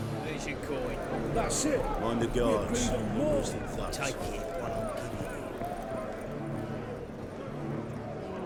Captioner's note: indistinct chatter